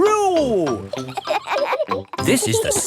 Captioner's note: kids laughing